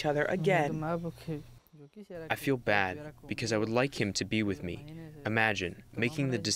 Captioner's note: through translator